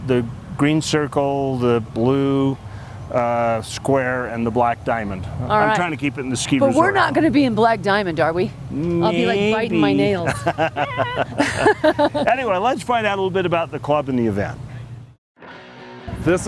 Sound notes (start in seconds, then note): 10.2 laughter